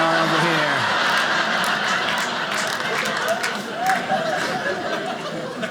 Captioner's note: audience laughing